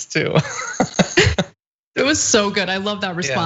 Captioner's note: laugh